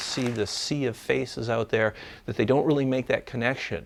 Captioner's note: voice breaking